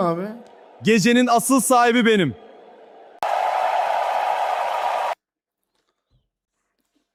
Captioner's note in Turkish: coşkulu tezahürat